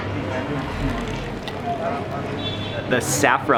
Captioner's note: water pouring